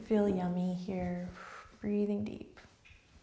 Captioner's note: exhales